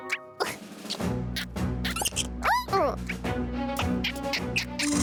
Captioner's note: animal noises